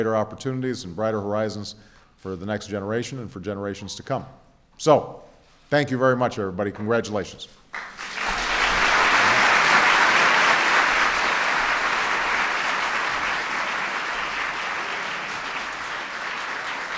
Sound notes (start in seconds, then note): 14.1 applause